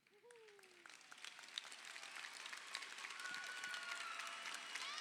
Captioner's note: crowd cheering